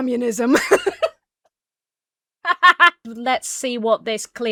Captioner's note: laughs